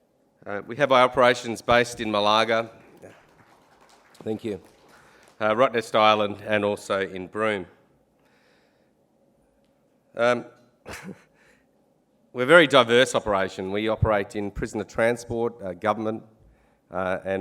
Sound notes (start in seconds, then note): 1.9 applause; 10.8 chuckles